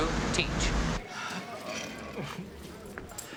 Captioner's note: groans